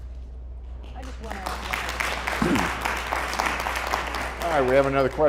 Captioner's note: applause